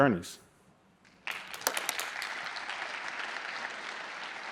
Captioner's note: applause